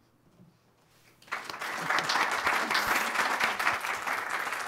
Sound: applause

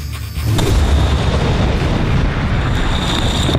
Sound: explosion

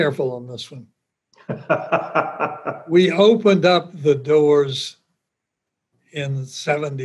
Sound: laughs

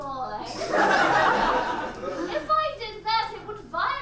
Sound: audience laughs

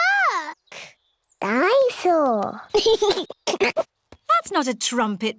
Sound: giggles

